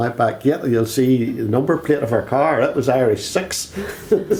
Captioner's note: both laugh